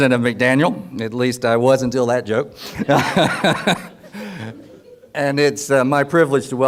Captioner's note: laughs